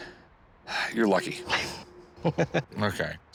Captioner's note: chuckles